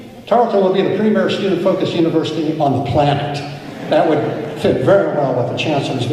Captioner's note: laughter